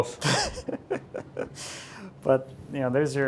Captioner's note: laughs